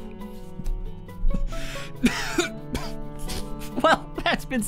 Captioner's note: coughing and Laughing